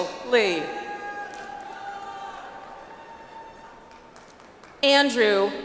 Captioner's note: audience applauds